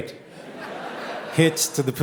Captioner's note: audience laughing